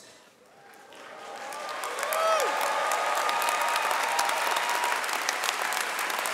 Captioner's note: audience cheering and clapping